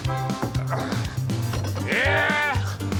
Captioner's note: grunting